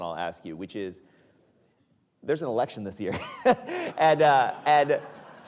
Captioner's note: chuckles